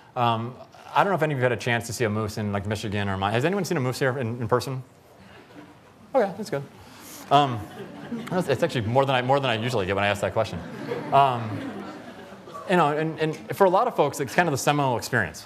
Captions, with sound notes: I don't know if any of you have had a chance to see a moose in like Michigan or -- has anyone see a moose here in person? Oh, yeah. That's good. [ Laughter ] It's actually more than I usually get when I ask that question, you know. And for a lot of folks it's kind of a seminal experience